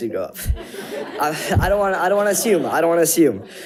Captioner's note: audience chuckles